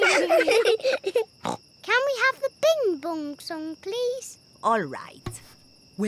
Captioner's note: snorts